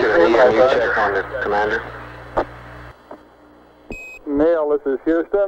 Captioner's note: mission Control Audio